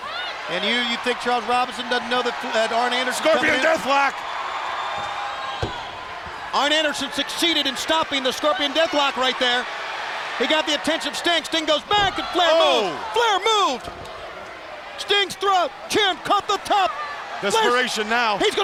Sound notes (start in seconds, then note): 4.8 crowd cheering; 12.8 Bobby exclaiming